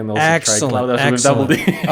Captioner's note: laugh